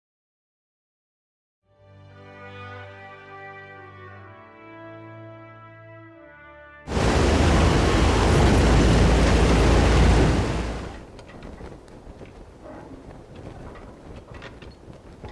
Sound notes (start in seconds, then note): 6.8 sound of an airplane